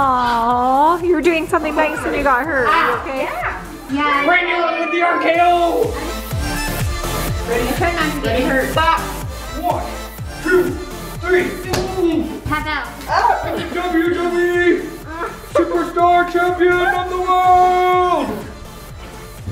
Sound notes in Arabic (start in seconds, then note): 5.3 يصرخ